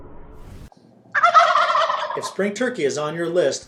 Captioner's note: turkeys gobble